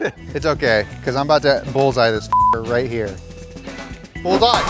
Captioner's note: beep